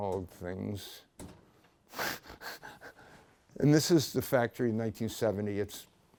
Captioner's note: laughs